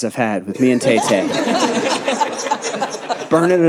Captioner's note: audience laughing